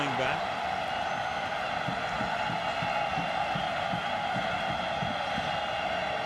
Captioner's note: cheering